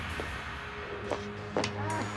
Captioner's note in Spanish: quejido